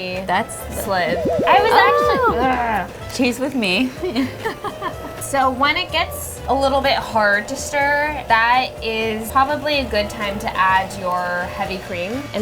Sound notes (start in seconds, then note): 3.4 groans; 3.7 laughs